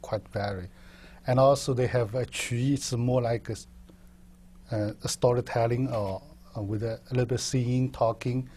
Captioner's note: chinese